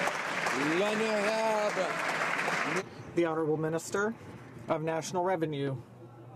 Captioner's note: some Applause